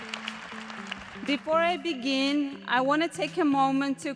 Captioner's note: applause